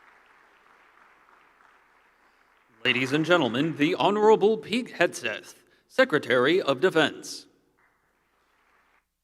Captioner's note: applause